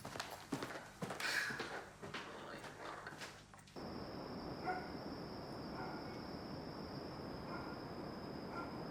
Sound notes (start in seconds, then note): 4.6 dog barking